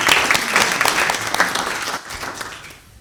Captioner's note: applause